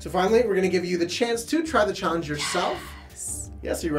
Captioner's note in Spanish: Susurros